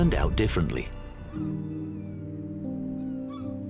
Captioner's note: birds squawking